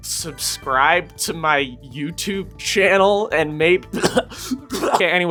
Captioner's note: horrible coughing